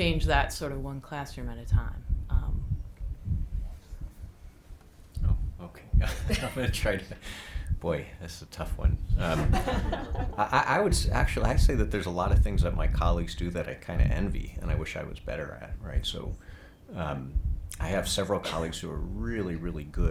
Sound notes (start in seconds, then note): 9.2 group laughing